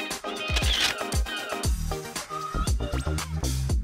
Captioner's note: camera Shutter Clicks